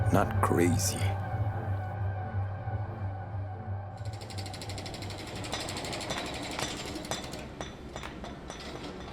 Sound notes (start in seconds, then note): 4.9 glass clanking together